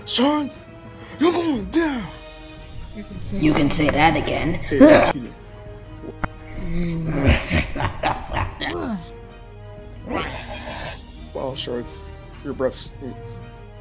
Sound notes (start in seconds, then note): 6.8 Shards laughs; 10.0 Shards roars